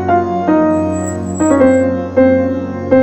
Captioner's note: Car halting